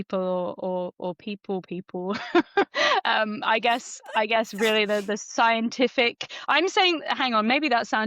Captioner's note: laughs